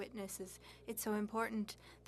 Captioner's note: speaking French